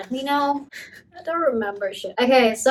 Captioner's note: laughing